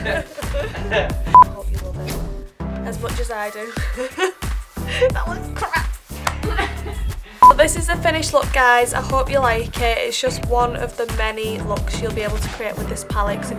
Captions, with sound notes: I hope you love it as much as I do *laughs* That was crap! So this is the finished look guys I hope you like it It's just one of the many looks you'll be able to create with this palette